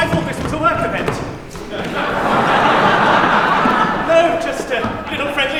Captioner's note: laughter